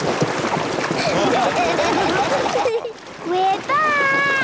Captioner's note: laughing